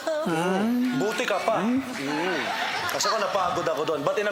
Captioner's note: laughter